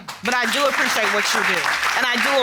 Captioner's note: audience applauding